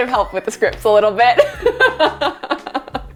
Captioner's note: laughs